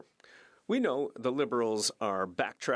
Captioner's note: speaking French